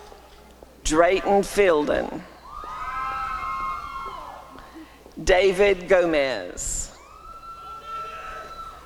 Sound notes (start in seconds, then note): 1.7 applause and cheering; 6.1 applause and cheering